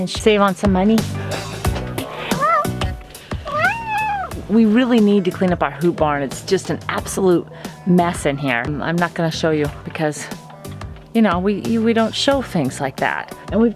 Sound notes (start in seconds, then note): 1.8 meow